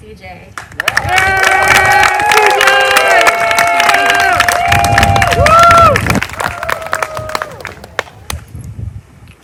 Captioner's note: applause